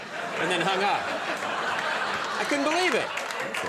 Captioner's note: audience laughing